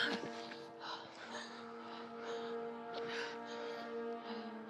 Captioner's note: wood clatters; Eleanor panting